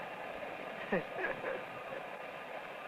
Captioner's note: laugh